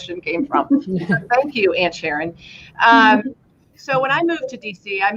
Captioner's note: laughter; laughter